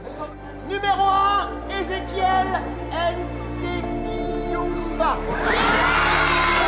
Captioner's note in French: rire